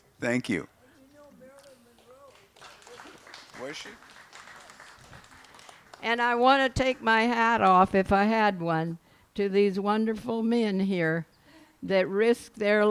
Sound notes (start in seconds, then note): 1.9 applause